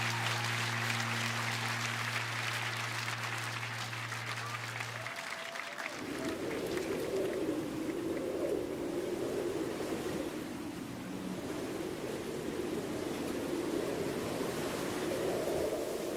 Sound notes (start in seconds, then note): 0.0 applause